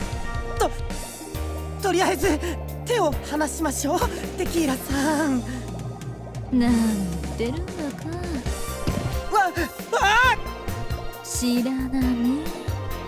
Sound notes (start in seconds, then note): 9.8 surprised